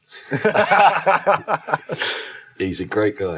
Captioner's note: panel laughs